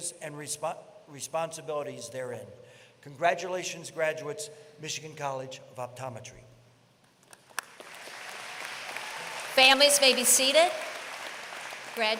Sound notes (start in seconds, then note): 7.2 applause